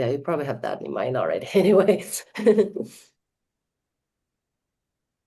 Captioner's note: chuckles